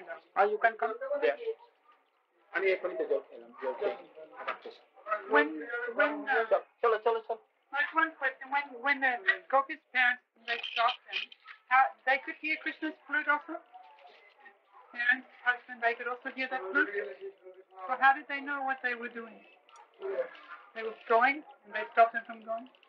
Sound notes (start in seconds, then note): 2.1 Hindi